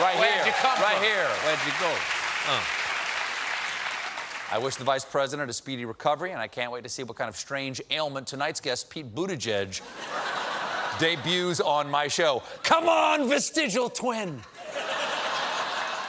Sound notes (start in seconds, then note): 2.7 applause